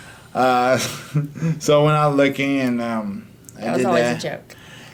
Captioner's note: laughs